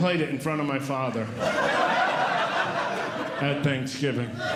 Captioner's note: audience Laughing